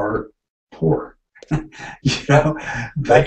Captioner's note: chuckling